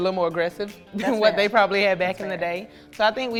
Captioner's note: laughs